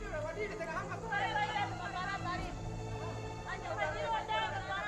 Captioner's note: speaking native language